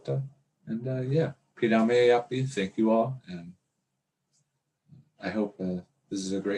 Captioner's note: speaks in dakota